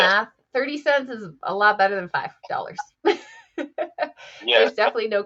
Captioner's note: laughs